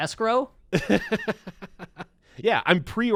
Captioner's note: laughs